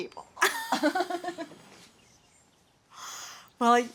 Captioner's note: laughs